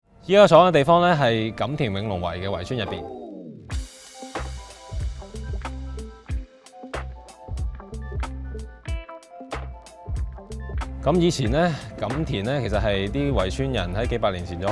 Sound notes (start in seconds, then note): 0.7 Cantonese